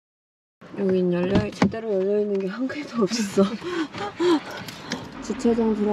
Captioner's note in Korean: 하아